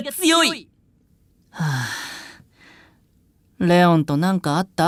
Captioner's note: sigh